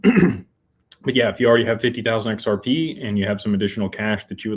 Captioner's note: clears throat